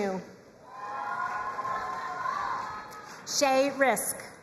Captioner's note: crowd cheering and applauding